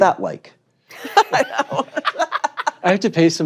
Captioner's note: laughing; laughter